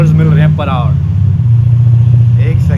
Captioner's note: engine revs loudly